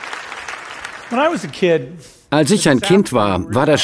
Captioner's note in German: Applaus; englisch